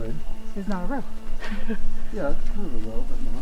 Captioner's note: giggling